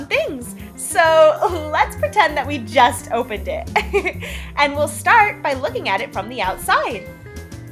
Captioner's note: giggle